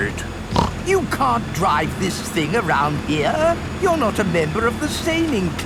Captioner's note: snorts